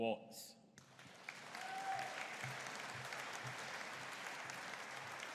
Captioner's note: audience cheering